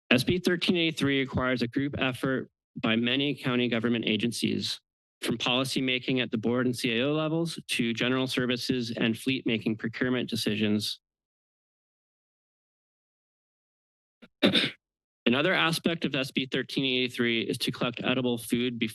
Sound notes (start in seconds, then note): 11.0 pause; 14.4 clears throat